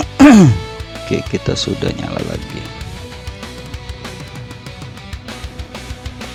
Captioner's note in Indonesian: berdehem